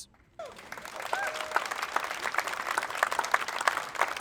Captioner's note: applause